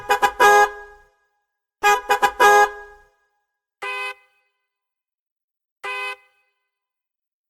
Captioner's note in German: Hupgeräusch